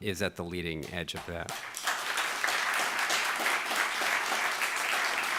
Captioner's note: audience clapping